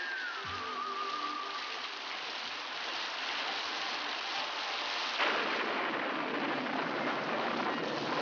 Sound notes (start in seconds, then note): 5.1 thunder